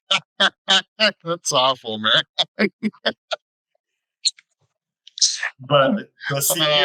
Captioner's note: laughs